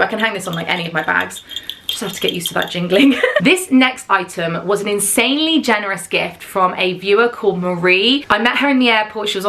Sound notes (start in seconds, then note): 2.9 chuckles